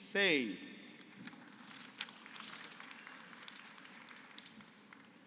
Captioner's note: applause